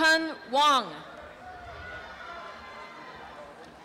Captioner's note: applause and cheering